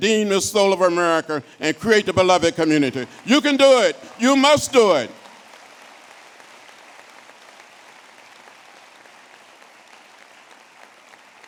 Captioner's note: applause